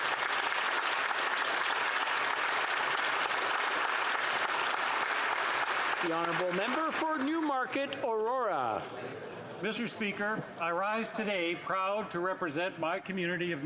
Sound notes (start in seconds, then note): 3.8 applause